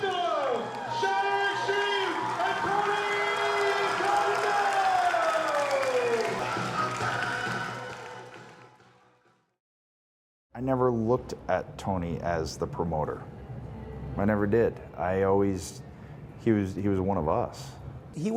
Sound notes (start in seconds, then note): 6.6 crowd cheering and clapping